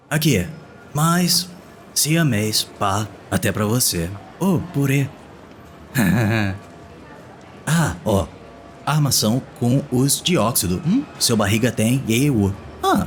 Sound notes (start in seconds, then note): 5.9 silly chuckle